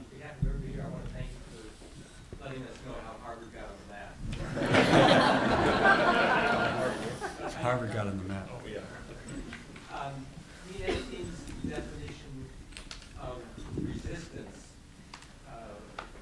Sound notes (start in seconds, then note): 4.4 laughter